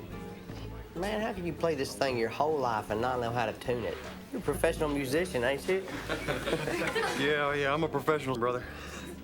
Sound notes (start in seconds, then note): 5.9 laughing